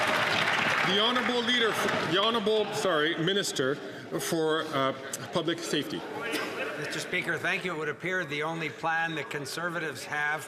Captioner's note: some Applause